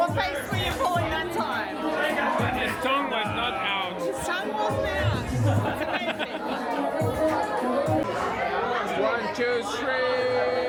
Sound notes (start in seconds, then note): 4.8 laughing